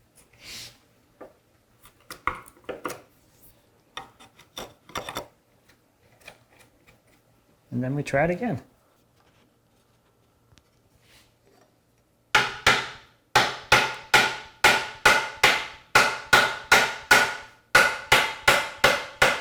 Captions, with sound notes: (chisel on wood scraping) And then, we try it again. (chisel handle on wood sharply tapping)